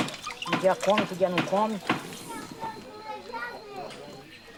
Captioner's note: Portuguese spoken audio